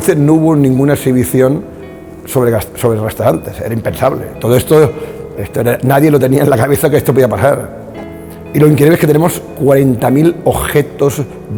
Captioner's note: speaking spanish